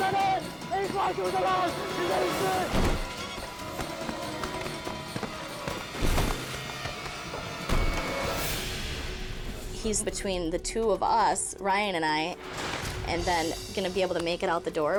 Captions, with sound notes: (man screams) - He's between the two of us, Ryan and I, and then going to be able to make it out the door.